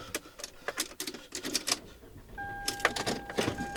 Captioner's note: engine turning over